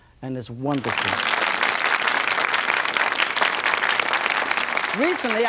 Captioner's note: audience applauds